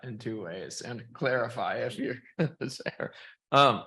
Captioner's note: chuckles